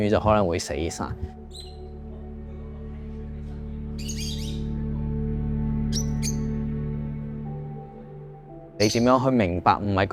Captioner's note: bird chirping